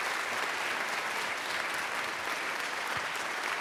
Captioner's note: crowd clapping